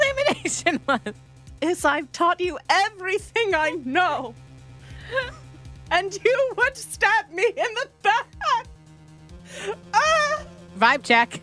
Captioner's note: sobs